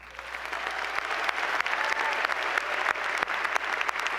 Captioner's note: applause